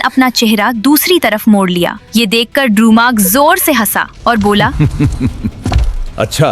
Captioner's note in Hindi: हंसी